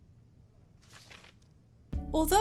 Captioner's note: flips page